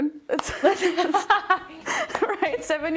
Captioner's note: laughing